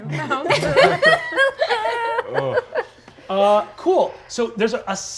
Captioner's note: players laughing